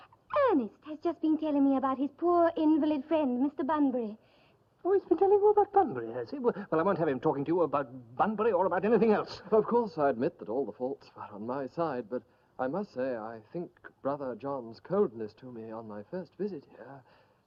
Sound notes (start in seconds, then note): none